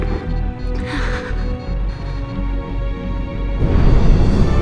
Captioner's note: bomb continues beeping intermittently